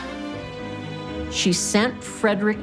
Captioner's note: none